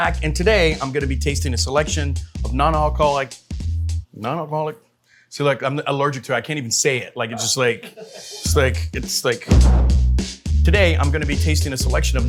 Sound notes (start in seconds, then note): 8.1 crew laughing; 9.5 graphic whooshing